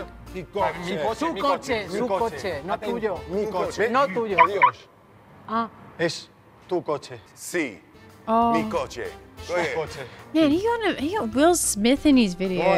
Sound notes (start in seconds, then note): 0.2 quarrelling continues; 4.3 car lock beeps